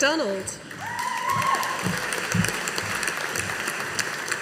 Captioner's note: audience applauding